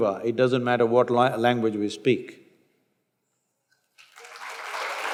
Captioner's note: applause